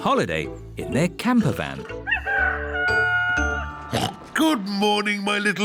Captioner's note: daddy pig oinks; rooster crowing